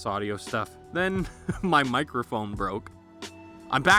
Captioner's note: chuckles